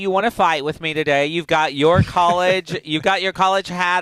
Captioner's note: laughing